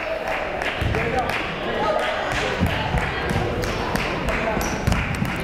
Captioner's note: crowd member clapping